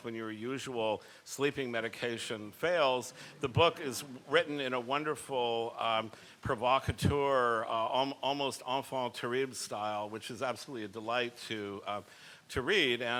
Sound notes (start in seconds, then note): 8.2 speaks a foreign language